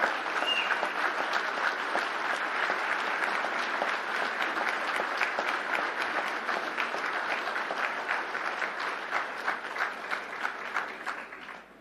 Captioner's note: applause